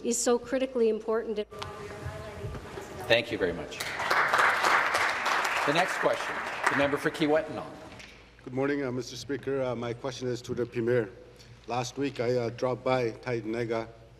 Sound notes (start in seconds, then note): 8.3 applause